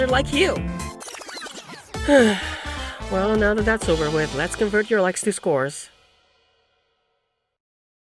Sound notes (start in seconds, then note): 2.0 sigh